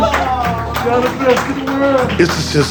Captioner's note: nurses clapping